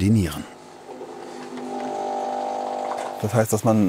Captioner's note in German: Tiefes Surren